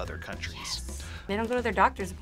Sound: whispers

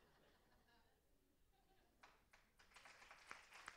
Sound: laughter; applause

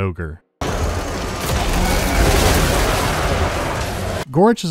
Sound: intense infantry-munching

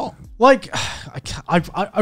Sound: sighs

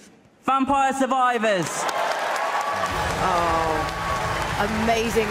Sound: applause

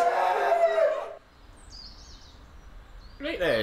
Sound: bird song

